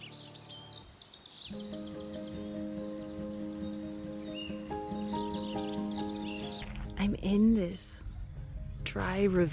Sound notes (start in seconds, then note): 2.4 birdsong & Music